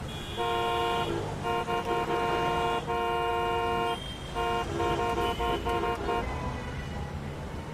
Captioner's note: car horns honking